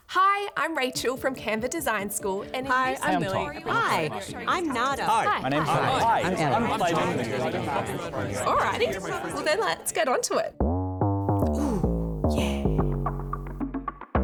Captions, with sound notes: - Hi, I'm Rachael from Canva Design School- - Hi, I'm Lily. - Hey, I'm Tom. - Hi, I'm Nada. (chattering) - Alrighty, well, then, let's get onto it. (upbeat funky music)